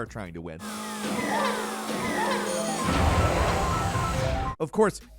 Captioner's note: Donkey Kong screams